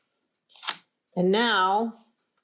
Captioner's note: shutter clicks